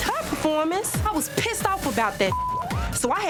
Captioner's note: beep